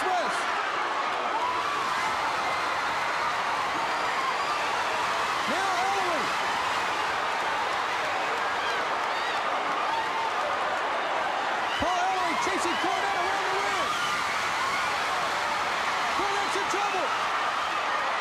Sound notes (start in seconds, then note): 0.1 crowd cheering; 6.5 crowd cheering; 14.9 crowd cheering